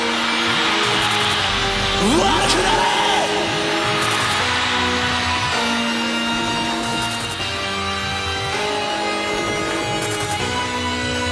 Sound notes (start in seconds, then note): 0.0 crowd cheering; 2.4 singer speaks in foreign language; 4.1 crowd cheering; 7.7 heavy metal music